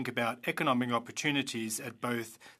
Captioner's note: speaking French